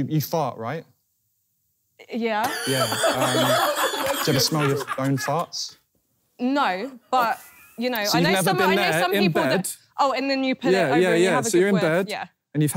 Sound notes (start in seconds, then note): 2.4 laughing